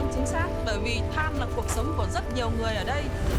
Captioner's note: non-english speech